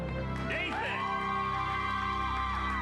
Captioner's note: applause